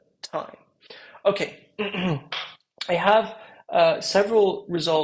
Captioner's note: cough